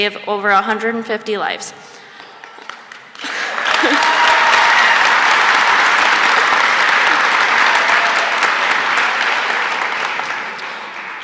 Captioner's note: applause